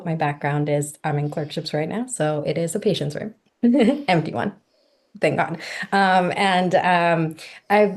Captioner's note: giggles